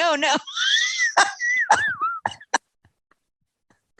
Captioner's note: laughing